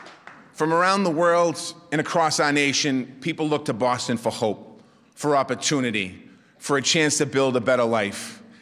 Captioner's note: applause